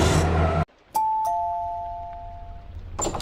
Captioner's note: doorbell